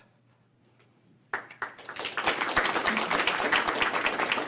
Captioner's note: applause